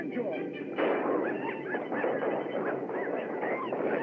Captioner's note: gunshots